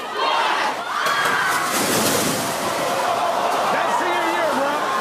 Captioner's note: papers crashing